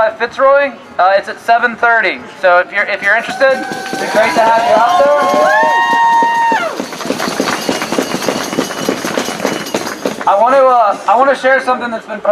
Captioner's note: applause